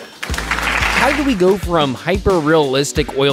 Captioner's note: audience applauding